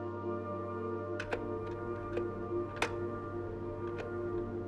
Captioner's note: buttons clicking